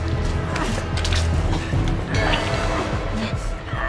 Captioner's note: both grunting; ooze squelching; both grunting